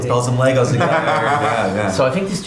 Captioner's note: laughing